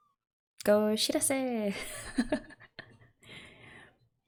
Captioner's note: laughs